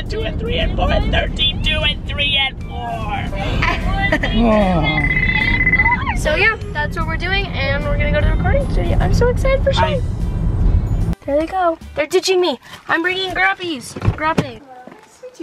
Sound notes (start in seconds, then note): 3.2 laughs